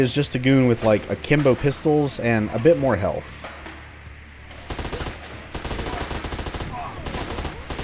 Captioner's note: spraying